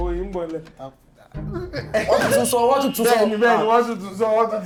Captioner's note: buzzer sounds